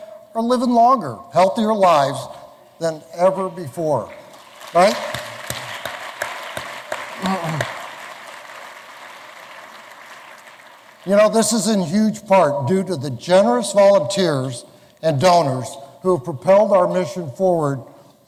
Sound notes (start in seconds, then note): 4.3 applause